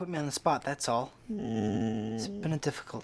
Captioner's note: Bob groaning